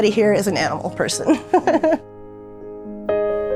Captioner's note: laughs; soft music